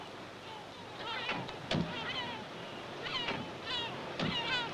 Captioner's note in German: Vogelgeschrei; Wind und Schreie dauern an